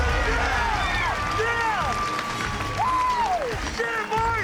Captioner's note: cheering